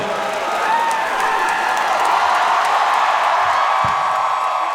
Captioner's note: audience cheering